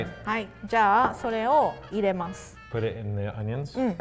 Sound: speaks in foreign language

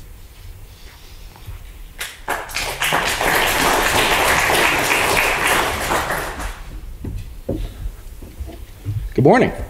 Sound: congregation applauds

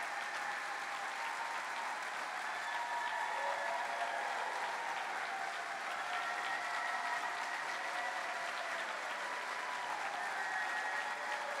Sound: cheering

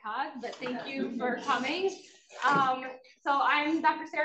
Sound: students chuckle

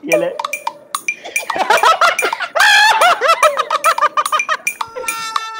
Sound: laughing

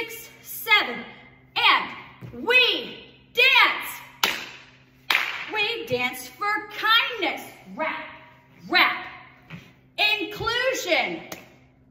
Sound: clap clap

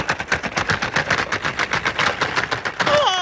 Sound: box clacking; moaning

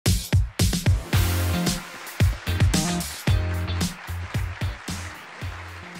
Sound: upbeat music; crowd clapping

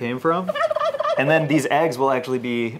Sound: turkey gobbling

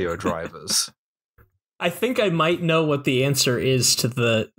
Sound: laughter

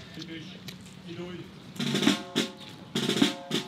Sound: order in Hungarian and then marching drums

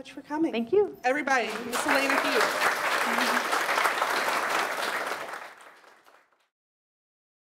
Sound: audience applause

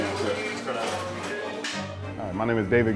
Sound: dishes clanking

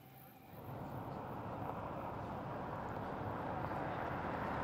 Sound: engine rumbles

